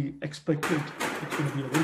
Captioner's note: clanking